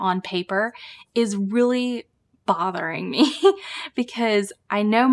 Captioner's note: chuckles